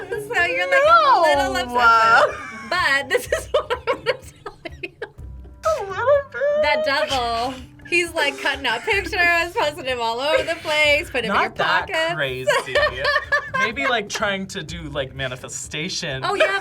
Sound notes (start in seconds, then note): 0.0 sarcastically; 0.0 laughs